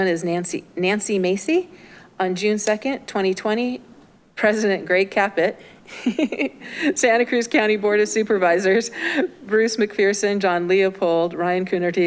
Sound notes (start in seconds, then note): 5.9 clerk chuckles